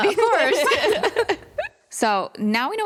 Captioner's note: laughter